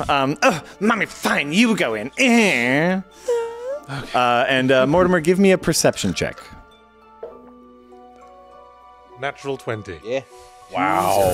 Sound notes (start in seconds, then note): none